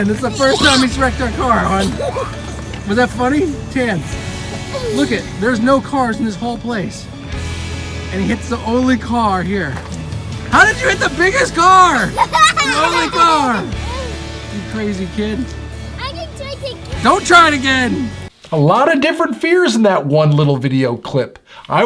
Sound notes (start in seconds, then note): 12.3 children laugh